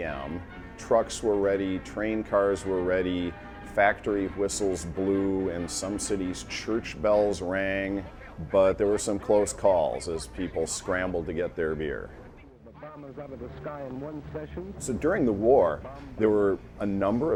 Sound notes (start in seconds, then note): 12.6 voiceover